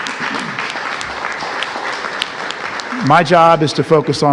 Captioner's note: applause